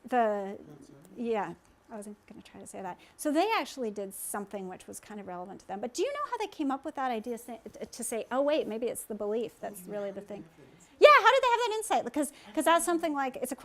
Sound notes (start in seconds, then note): 0.2 speaking from off mic; 10.5 speaking from off mic